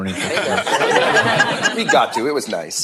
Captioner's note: laughter